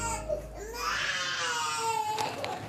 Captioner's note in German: Weinend